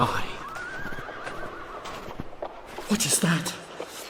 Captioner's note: horses whinny